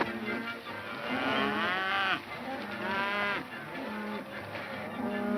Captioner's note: cattle moaning